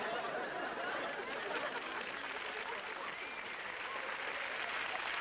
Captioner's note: audience Laughter & Clapping